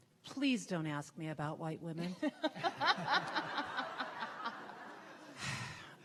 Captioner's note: laughter